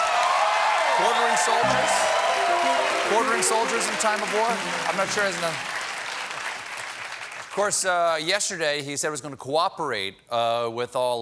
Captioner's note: cheers and applause